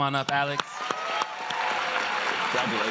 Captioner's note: applause